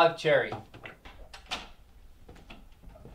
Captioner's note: door opening